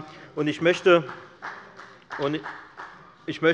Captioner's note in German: Beifall bei der FDP